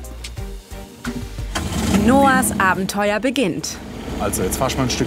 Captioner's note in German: Motor startet